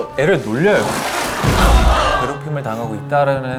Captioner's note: thud